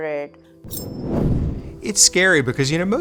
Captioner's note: air whooshes